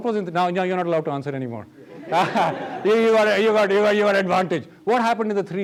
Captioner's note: laughs